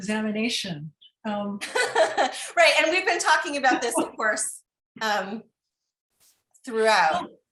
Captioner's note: laughter